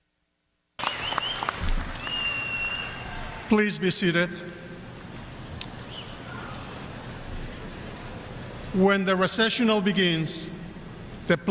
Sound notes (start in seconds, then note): 0.8 audience applauding; 0.8 audience cheering